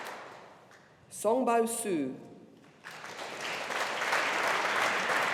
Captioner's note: audience applauding